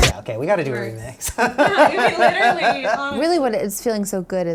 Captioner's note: laughing